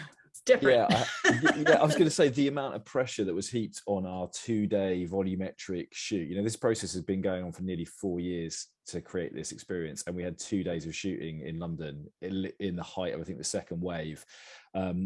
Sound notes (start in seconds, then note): 0.8 everyone laughing